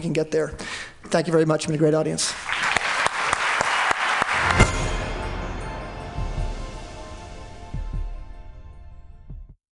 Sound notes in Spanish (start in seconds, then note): 2.3 Aplausos